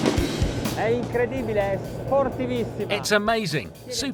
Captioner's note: speaking in a foreign language